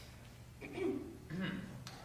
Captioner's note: clears throat